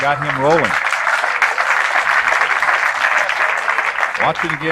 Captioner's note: applause